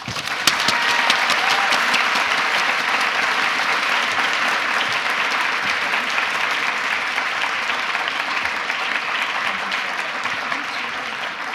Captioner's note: applause